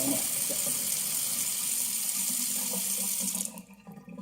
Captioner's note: water draining